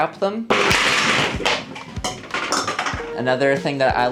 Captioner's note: condiments clatter